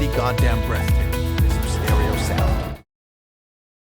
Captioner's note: roaring